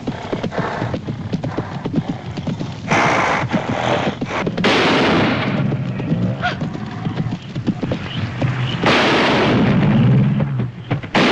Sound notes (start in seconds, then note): 3.9 gasps; 3.9 snorting